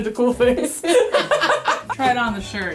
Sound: both laughing

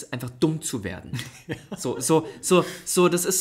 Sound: laughs

